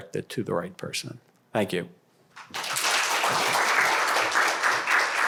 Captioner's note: applause